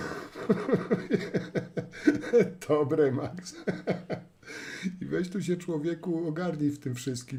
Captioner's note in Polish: śmiech